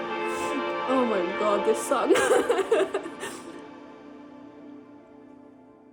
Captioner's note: giggles